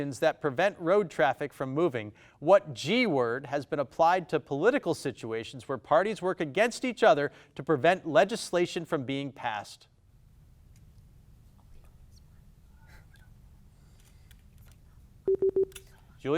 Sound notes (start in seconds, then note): 11.6 players whisper; 15.2 buzzer beeps